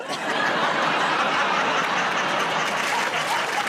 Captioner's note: laughter; applause